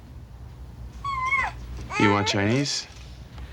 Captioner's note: Janey coos